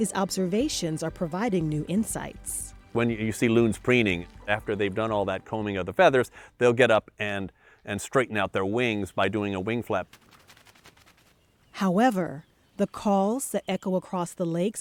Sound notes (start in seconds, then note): 9.6 wings flapping